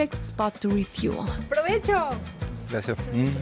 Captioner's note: all speak Spanish